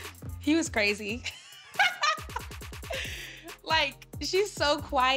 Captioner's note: laughing